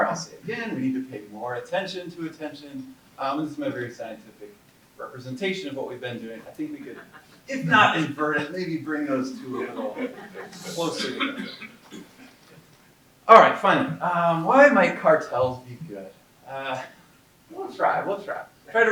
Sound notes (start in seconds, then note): 11.0 audience laughing